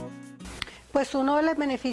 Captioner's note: speaking spanish